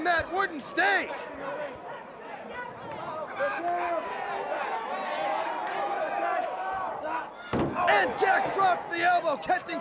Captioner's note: crowd chatter